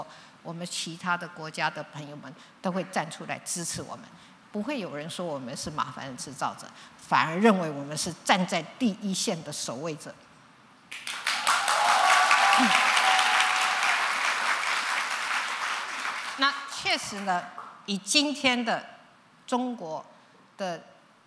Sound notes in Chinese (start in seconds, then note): 10.9 掌聲